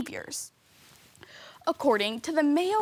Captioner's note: rustling